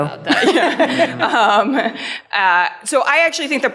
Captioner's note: laughing